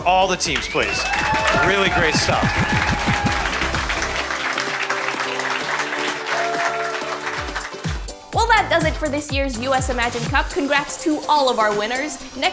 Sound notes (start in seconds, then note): 1.0 applause